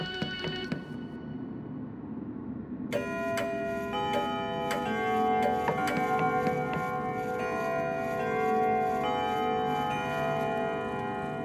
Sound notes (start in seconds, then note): 0.2 ominous music; 2.9 clock chimes; 3.1 clock ticks